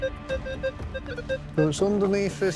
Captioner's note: metal detector beeping